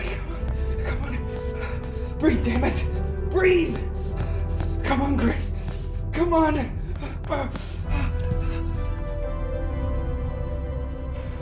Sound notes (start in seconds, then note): 6.9 Jim grunting and panting